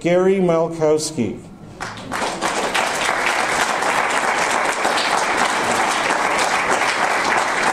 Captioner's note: audience applause